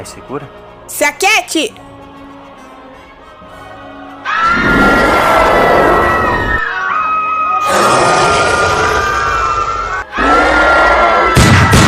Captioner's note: screams and lots of chaos